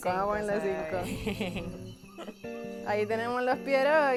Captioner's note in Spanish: risas